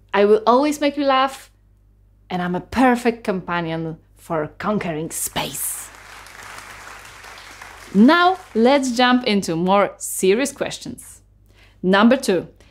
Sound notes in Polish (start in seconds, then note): 5.3 oklaski